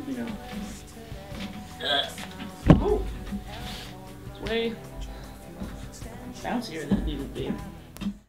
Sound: grunt

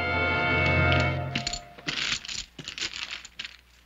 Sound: clinking

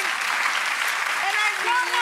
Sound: audience applauds

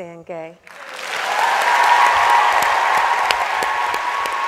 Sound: audience applauds

